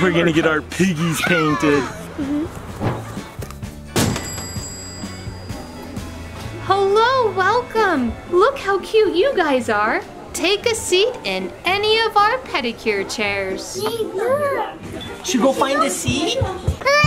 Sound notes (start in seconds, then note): 2.4 bell dings; 2.7 door bangs